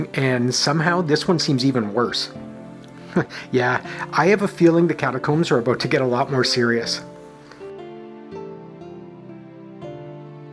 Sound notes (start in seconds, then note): 2.9 chuckle